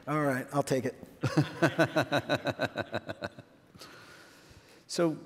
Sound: laughs

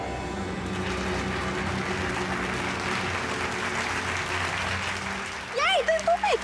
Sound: applauding

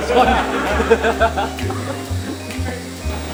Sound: laughs

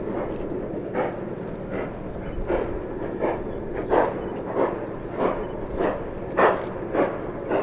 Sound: Lite locomotive chugging now

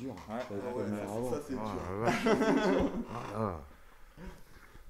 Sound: laugh

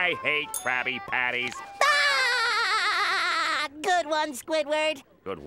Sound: laughing

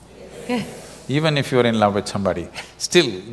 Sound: laughs

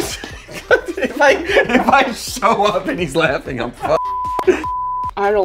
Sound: beep

